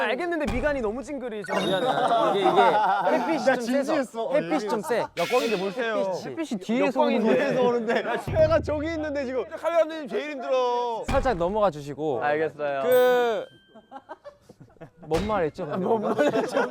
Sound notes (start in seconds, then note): 13.0 laughs